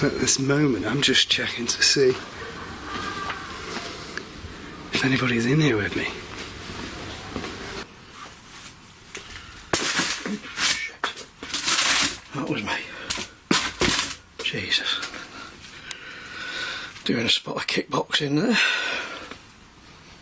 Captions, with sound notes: At this moment, I'm just checking to see if anybody's in here with me. (box clattering) - Oh shit. That was me. Jesus. Doing a spot of kick boxing there.